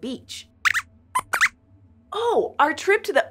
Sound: squeaks squeaks

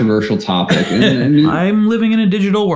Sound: laughs

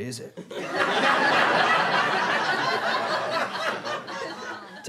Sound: audience laughter

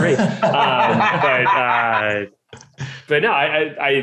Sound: laughing

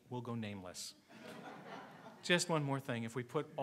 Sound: congregation laughing

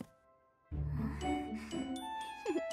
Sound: sighs; giggles

